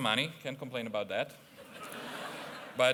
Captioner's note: laughter